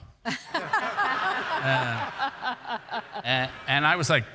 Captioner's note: all laugh